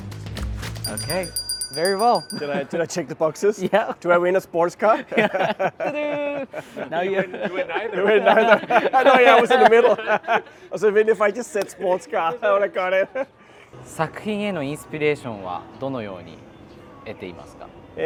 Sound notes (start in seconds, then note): 4.8 both laughing; 7.8 all laughing